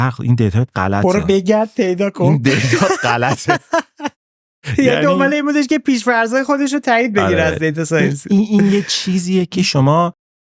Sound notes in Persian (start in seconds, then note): 2.4 خنده